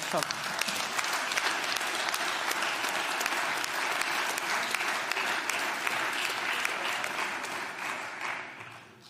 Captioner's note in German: Beifall